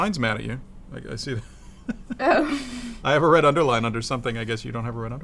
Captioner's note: laughs